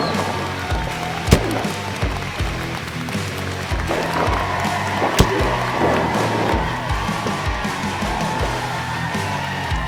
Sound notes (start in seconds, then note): 1.3 loud thump from the massive hit; 5.2 another loud thump from a Tecolote’s body